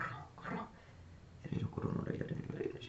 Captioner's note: speaking in foreign language